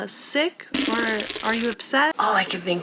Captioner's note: pooping gurgles